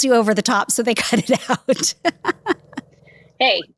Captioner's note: laughs